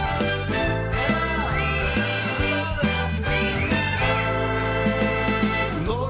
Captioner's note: group cheers and whistled